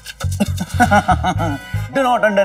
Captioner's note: Laughs